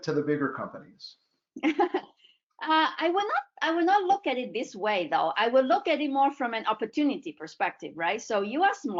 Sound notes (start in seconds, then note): 1.8 laughs